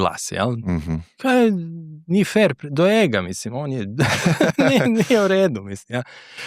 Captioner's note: laughs